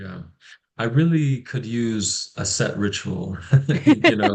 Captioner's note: brief laughter